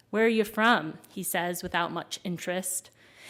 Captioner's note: none